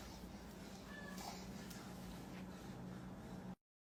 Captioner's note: cat meows